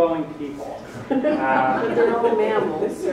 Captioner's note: audience members laugh